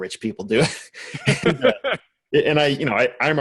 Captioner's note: laughs